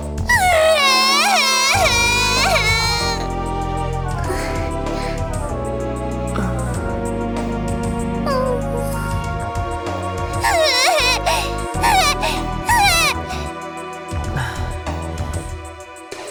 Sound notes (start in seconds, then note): 0.2 can't not sob; 10.3 broken sobs